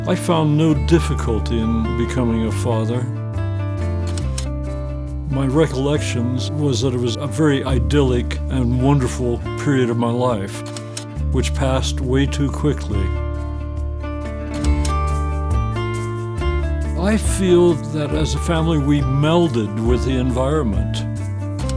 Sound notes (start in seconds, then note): 4.0 slide clicks; 10.6 slide clicks; 13.7 upbeat guitar music; 14.5 slide clicks